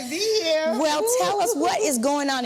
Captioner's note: chuckles